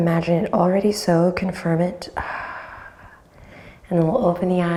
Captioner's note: exhales